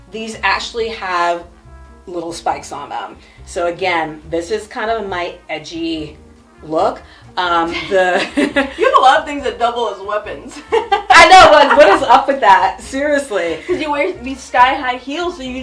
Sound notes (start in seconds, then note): 8.2 both chuckle; 10.7 laughs